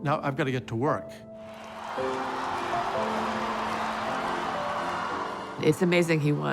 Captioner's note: cheers and applause